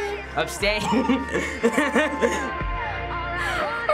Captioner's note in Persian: خندیدن